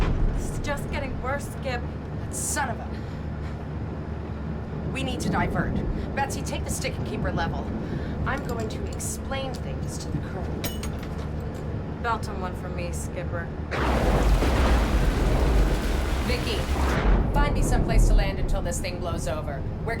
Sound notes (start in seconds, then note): 0.0 thunder rumbles; 13.6 thunder rumbles